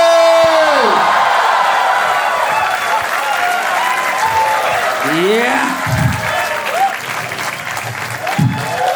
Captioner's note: crowd applauding